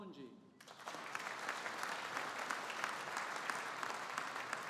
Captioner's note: audience applauding